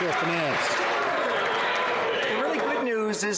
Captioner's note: some Applause